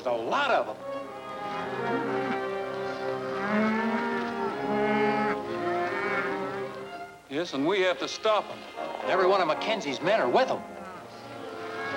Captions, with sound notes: There's a lot of 'em. (tense music) (cows mooing) Yes, and we have to stop 'em. - Every one of McKenzie's men are with 'em.